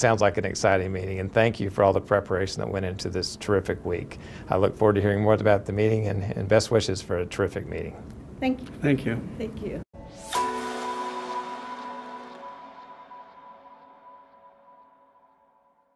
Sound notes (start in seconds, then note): 10.0 swoosh